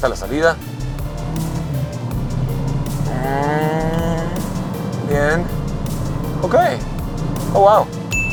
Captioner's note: engine revving